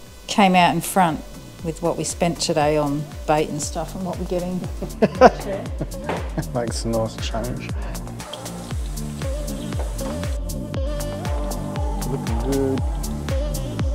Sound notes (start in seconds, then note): 4.8 laughing